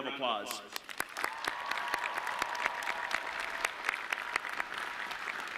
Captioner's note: audience clapping